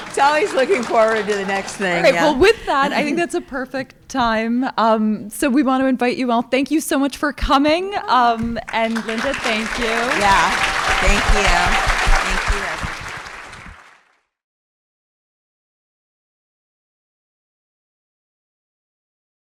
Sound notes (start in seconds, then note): 11.4 crowd cheering and applauding